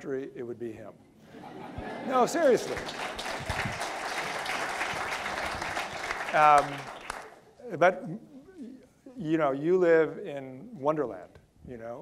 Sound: audience laughter; audience clapping

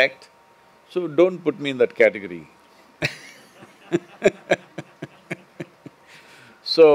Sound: few laugh

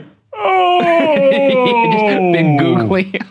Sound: groaning; laughing

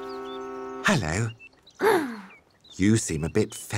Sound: sighs

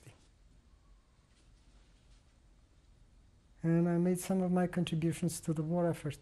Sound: pauses for 3 seconds

